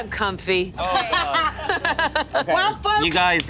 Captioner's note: laughs